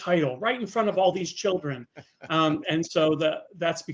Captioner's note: laughing